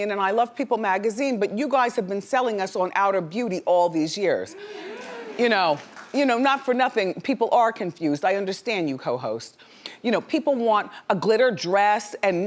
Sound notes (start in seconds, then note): 4.5 audience oohing